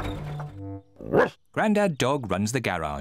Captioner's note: barks